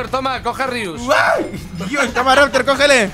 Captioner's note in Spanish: Grita